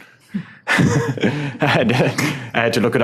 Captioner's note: laughs